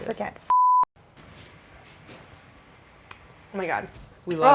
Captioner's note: beeping